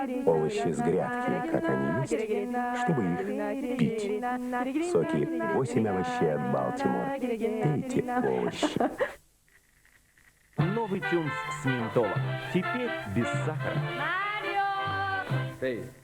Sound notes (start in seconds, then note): 8.2 laughter